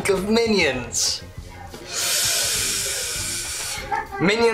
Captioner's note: breathes sharply